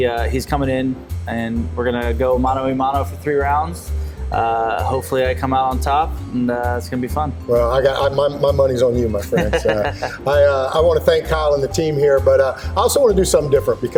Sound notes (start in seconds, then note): 9.2 laughs